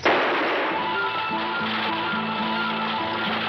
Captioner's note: gunshot bangs